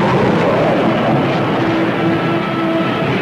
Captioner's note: water splashes; plane whooshing; explosion booms